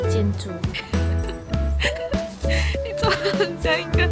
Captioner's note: laughing